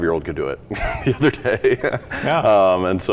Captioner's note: laughs